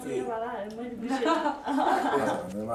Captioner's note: laughter